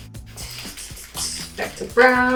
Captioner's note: imitates drumbeat